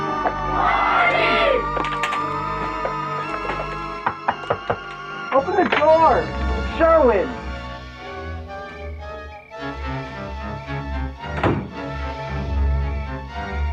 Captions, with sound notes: Party! - (knocks) Open the door, it's Sherwin.